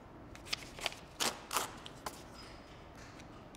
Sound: pages tear

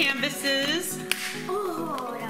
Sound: popping sound

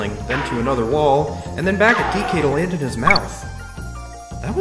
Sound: Banana collection sound from DKC

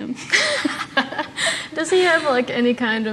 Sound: laughs

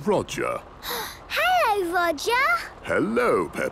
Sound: gasps

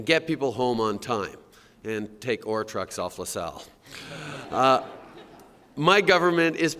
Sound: laughter

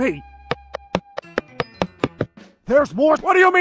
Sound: tip tap footsteps

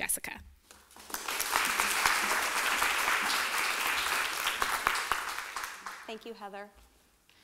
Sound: applause

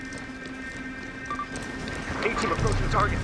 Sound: device beeping

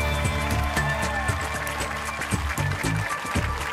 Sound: applause

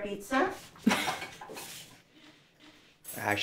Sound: Maricel Laughing

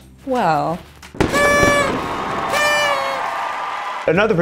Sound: party horns

